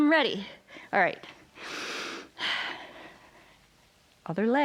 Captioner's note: inhales and exhales